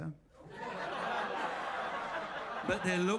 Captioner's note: audience laughs